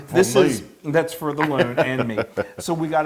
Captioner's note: laugh